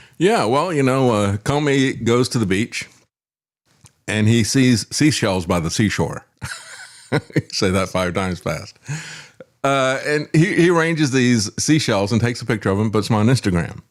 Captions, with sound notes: Yeah, well, you know, Comey goes to the beach and he sees seashells by the seashore. (Laugh) I say that five times fast. And he ranges these seashells and takes a picture of him, but it's on Instagram.